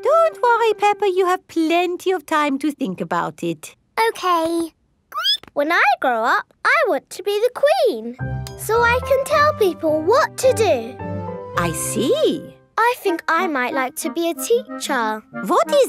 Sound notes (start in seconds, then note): 5.1 squeaks